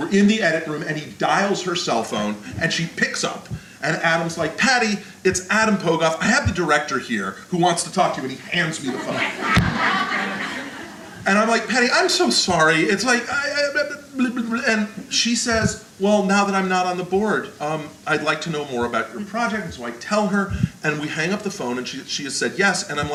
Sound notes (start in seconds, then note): 8.4 audience laughter